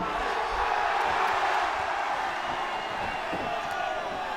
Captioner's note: audience cheering